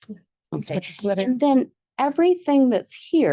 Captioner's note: board member speaks faintly